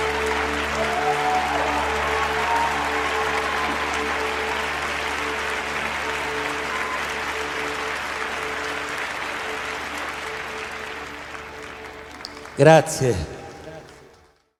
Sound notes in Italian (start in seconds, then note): 3.9 Applauso